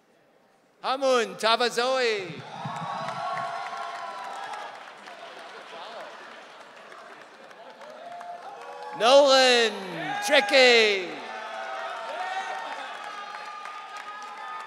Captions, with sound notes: Amu Tavazowi. (audience cheering) Nolan Teki. (audience cheering)